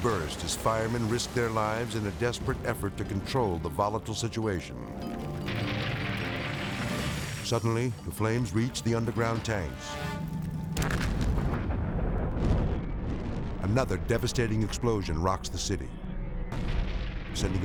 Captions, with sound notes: as firemen risk their lives in a desperate effort to control the volatile situation. (flames whooshing) Suddenly, the flames reach the underground tanks. (explosion booms) Another devastating explosion rocks the city, (explosion booms)